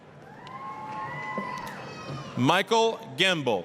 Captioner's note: applause, cheering